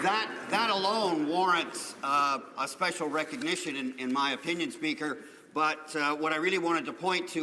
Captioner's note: applause